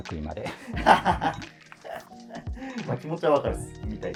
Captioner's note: laughing